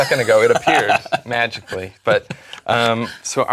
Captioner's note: laugh